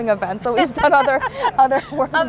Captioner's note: laughs